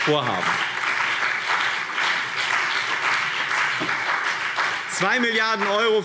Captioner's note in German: Beifall BÜNDNIS 90/DIE GRÜNEN und CDU